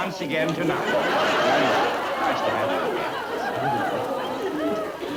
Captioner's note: audience laughter